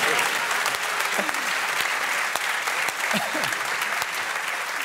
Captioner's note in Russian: публика аплодирует